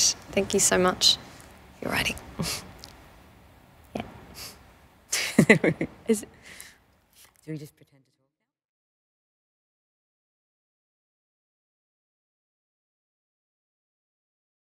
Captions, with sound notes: >> Thank you so much. >> All righty. >> Yup. >> [laughs] So, we just pretend to talk.